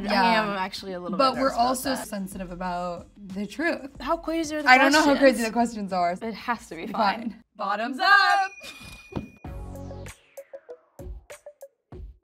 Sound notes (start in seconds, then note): 8.3 bell dinging; 9.4 funky music